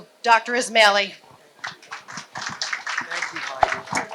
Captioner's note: applause